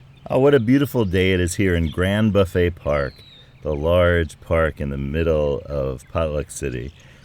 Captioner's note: park nature sounds, birds